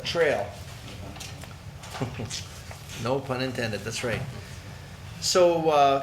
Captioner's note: chuckles